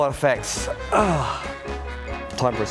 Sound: sighs

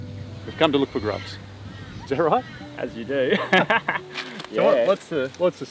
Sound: laughing

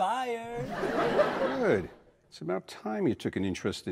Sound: audience laughs

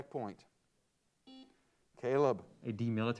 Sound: buzzer sounds

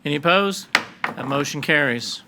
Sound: gavel bangs

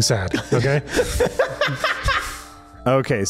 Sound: laughs

